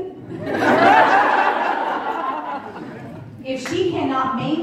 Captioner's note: crowd Laughing